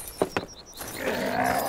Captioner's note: grunts